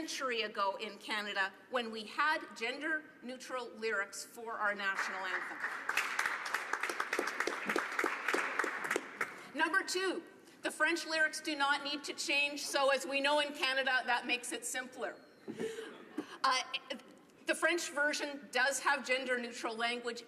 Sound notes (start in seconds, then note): 9.4 applause